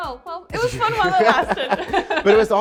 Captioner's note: both chuckling